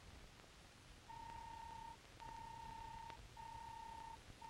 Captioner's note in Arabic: صوت الروبوت